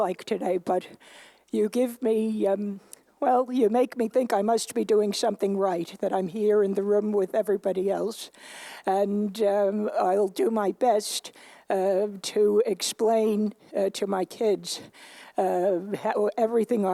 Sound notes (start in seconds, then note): none